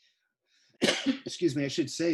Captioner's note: clears throat; coughs